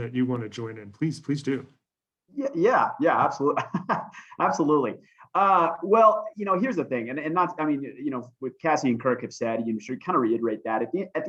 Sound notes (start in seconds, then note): 3.4 laughter